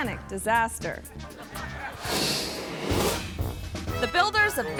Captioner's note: audience laughing